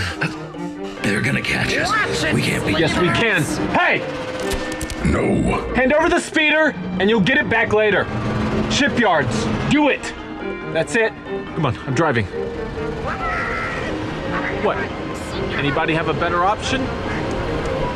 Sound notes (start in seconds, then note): 13.5 speaks alien curses; 13.9 the speeder pulls off